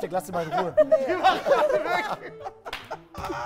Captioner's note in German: Lachen